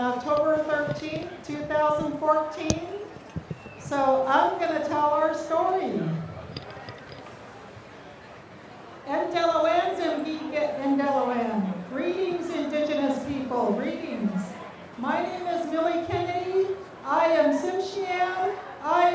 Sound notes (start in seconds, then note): 9.1 speaking native language